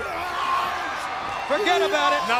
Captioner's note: crowd cheering